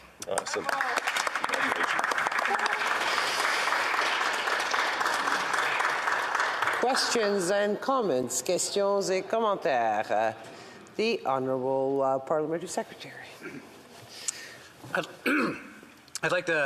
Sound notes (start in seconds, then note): 5.2 applause